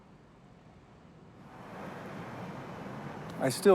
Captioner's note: bus whirring